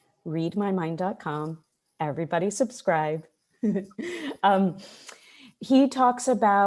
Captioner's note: chuckles